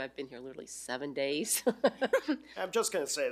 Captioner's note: laughs